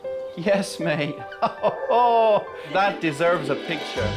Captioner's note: gentle music; laughing